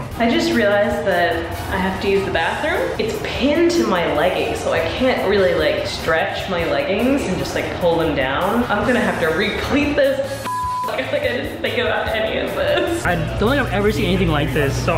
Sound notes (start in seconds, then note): 10.4 beeping